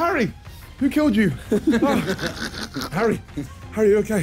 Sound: laughing

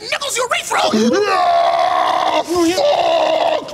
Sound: Satan screaming in pain

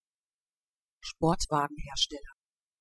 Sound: fast Pronunciation

